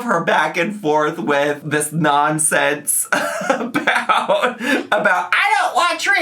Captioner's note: laughs